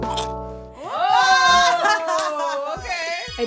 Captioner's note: laughter